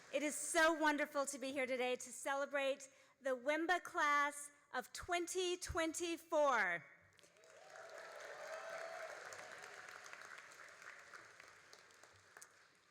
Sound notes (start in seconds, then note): 7.1 all applauding